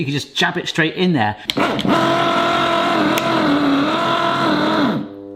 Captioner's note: can opener whirring; can opener buzzing